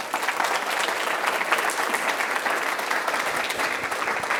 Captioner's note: audience applauding